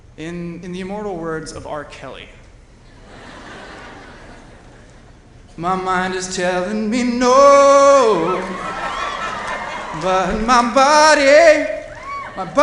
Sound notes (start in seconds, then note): 4.5 singing; 8.0 cheering